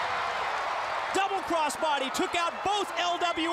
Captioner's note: crowd cheering